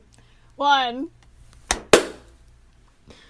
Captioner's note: everyone claps once